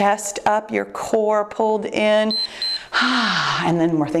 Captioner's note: timer beeps